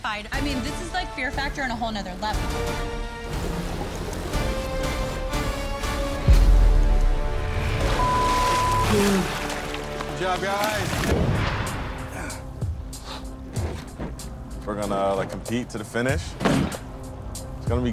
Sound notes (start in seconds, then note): 3.1 dramatic music; 7.9 beep; 12.7 suspenseful music